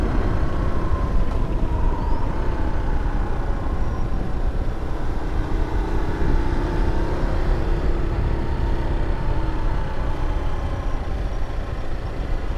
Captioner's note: engine rumbling